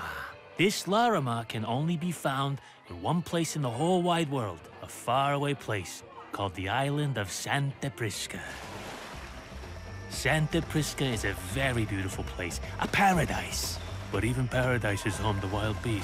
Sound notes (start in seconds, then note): 8.3 waves crashing